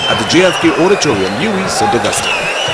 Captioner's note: wild applause and cheering for 22 seconds